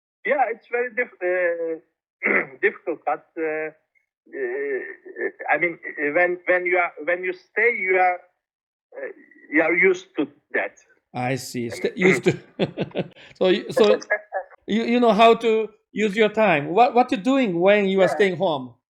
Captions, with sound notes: Yeah. It is very difficult, but I mean when you stay, you will get used to it. I see, used to- (laughs) So, you know how to use your time, what are you doing when you stay at home?